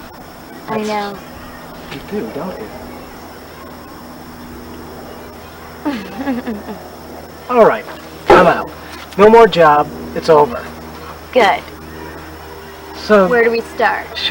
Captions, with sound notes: I know. You do don't you? [Laughs] All right. I'm out! No more job. It's over. Good. So where do we start? So? Where do we start?